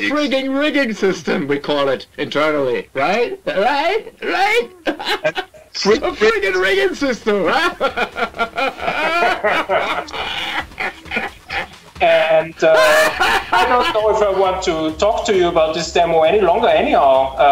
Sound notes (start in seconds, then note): 4.8 laughs; 9.4 laughs maniacally